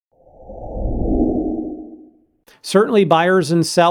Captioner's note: whoosh